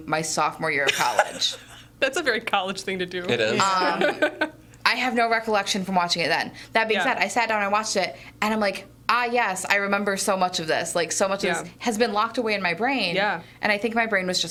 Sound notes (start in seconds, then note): 0.9 laughing